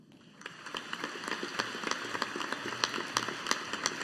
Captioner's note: audience applauding